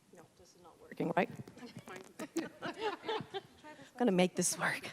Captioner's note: soft buzzing